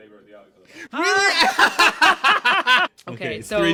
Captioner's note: bursts into laughter